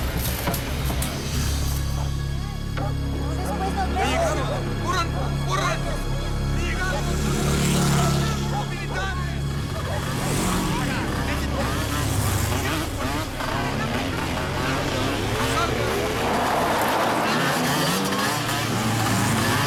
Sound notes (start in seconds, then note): 4.2 people speaking in foreign language; 7.6 motorcycle engines revving